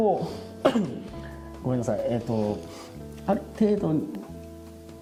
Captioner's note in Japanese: 咳払い